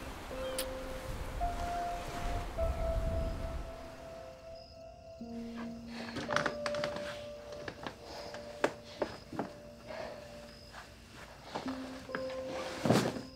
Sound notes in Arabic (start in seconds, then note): 0.3 الصراصير النقيق; 5.3 يتنفس بشدة